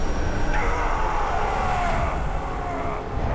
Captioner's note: scream